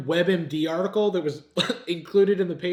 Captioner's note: chuckles